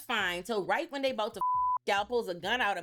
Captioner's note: beep